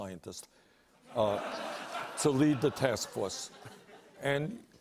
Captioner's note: laughter